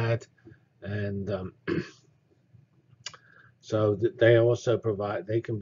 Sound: cough

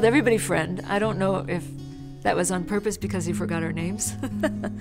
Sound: laughs

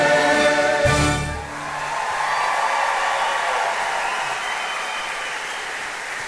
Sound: crowd cheering and applauding

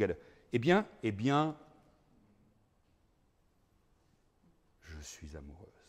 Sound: speaking in foreign language

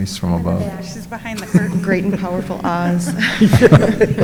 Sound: laughs

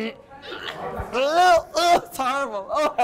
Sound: yelling

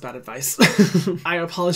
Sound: chuckles

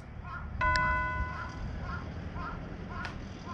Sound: crows are croaking

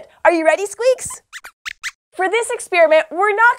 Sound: squeaks squeaks

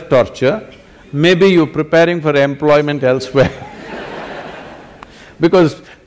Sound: laughter; 笑聲

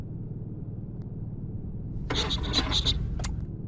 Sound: creaky rattle

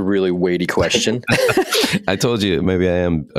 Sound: laughing

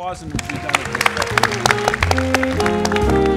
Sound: audience applauds; light jazz music

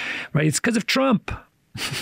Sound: chuckles

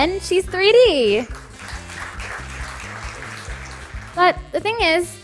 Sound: applause

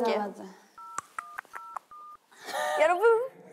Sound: dialing

